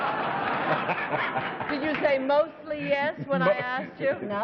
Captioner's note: laughter